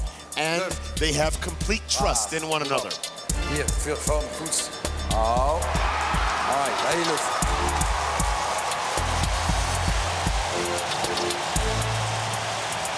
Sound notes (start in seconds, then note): 7.3 cheers and applause